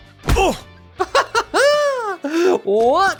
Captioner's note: much giddy excitement begins